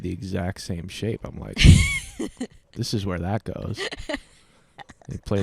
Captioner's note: laughing